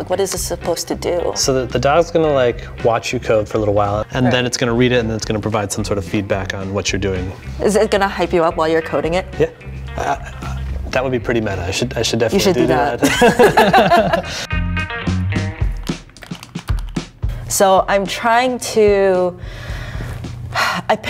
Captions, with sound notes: What is it supposed to do? So the dog's gonna like watch you code for a little while and then it's gonna read it and then it's gonna provide some sort of feedback on what you're doing. Is it gonna hype you up while you're coding it? Yeah, that would be pretty meta. I should definitely do that. You should do that. (laughing) (upbeat music) So I'm trying to, I